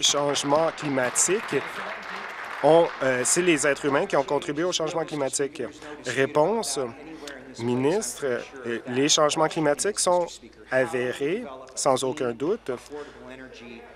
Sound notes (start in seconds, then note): 3.5 applause